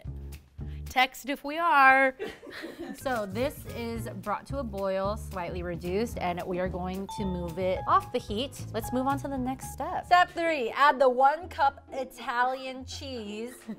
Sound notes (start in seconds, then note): 2.2 laugh; 8.4 ding; 13.4 laughs